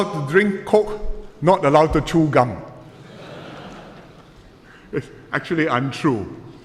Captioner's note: laughter